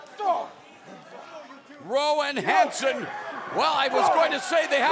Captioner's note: crowd chatter